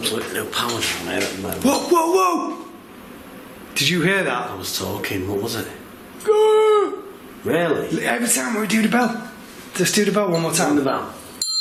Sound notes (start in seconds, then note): 6.2 strangled moan